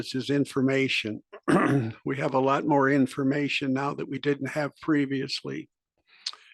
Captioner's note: cough